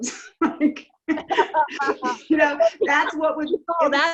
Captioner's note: laughs